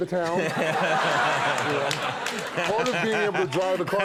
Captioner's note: audience laughs